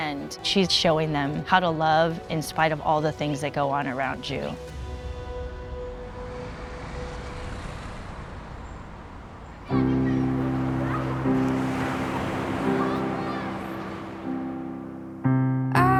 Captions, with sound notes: and she's showing them how to love in spite of all the things that go on around you. (traffic whirring by) (waves crashing)